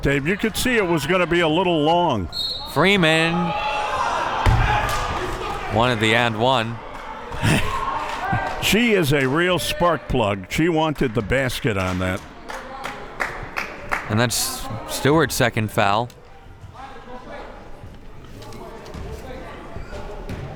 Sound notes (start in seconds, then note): 2.3 whistle blows; 7.3 laughs